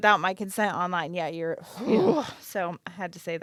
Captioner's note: grunting angrily